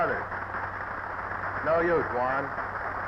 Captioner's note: audience applauding